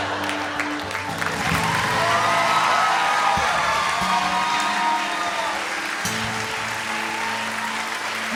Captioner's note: laughter; cheers and applause